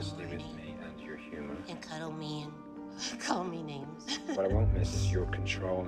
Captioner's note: laughs